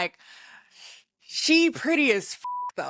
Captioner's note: beep